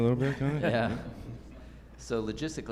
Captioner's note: laughs